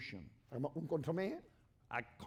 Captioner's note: speaking spanish